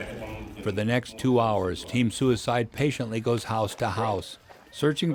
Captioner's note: voiceover